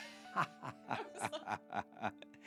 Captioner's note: laughing